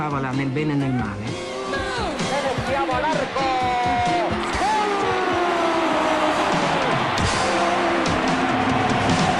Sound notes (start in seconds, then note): 1.9 Commentator, in Spanish; 5.4 crowd cheers, music continues